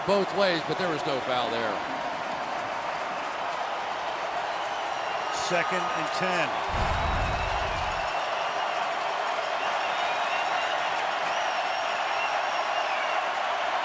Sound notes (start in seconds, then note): 7.2 crowd cheering